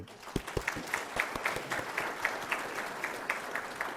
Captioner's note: applause